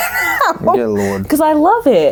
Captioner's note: laughs